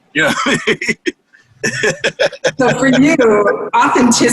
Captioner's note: laughter